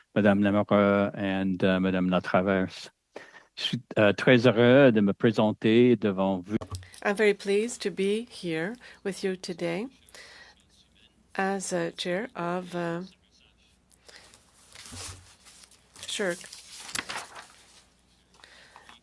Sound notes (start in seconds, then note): 12.0 speaking French